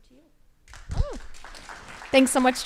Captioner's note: crowd applauding